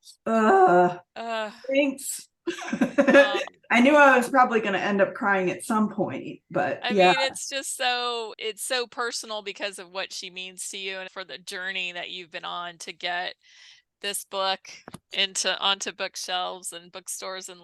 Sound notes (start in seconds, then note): 2.4 chuckles